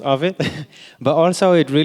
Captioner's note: laughs